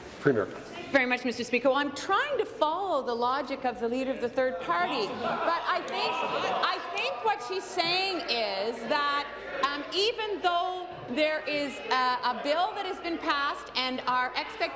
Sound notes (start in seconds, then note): none